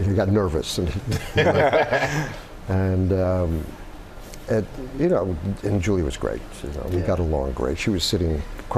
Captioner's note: laughter